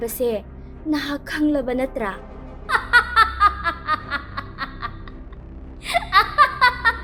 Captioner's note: eerie laugh